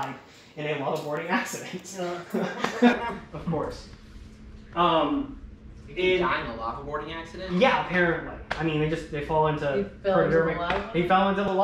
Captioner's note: chuckling